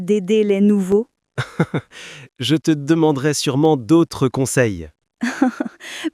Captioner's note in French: rire